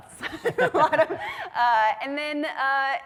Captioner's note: laughs